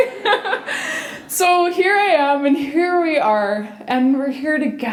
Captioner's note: laughter